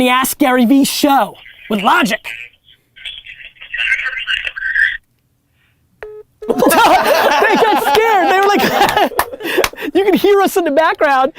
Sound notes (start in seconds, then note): 6.0 call dropped noise; 6.5 laughter